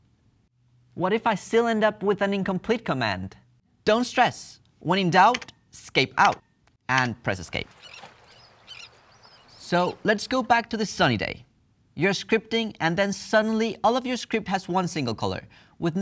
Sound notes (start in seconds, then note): 7.3 seabirds calling